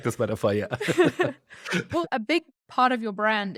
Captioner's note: both laugh